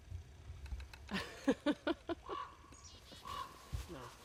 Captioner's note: laughs